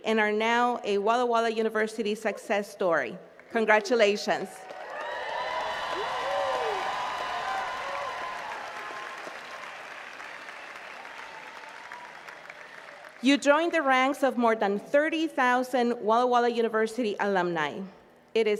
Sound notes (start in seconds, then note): 4.6 attendees cheering and clapping